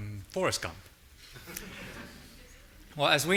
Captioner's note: audience laughing